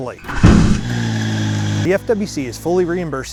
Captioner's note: engine revving